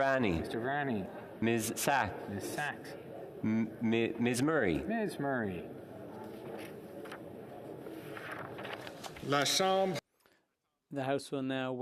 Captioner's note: calling of recorded vote